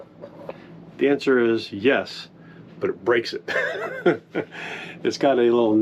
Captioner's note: chuckles